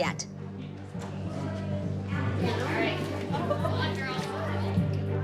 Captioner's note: chatter